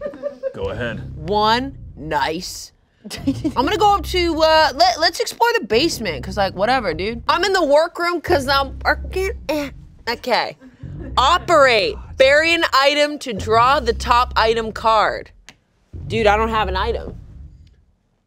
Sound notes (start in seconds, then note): 3.1 laughing